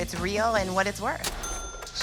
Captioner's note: cash register ring